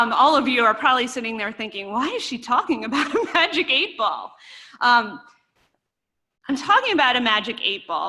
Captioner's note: laughter